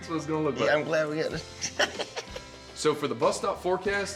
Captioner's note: laughs nervously